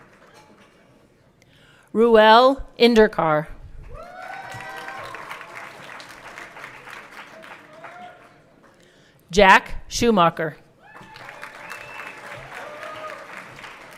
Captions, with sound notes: Reuel Indurkar. (everyone clapping) Jack Schumacher. (everyone clapping)